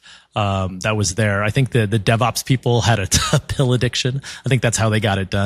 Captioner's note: laugh